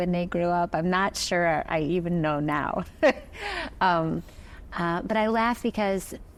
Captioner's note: chuckles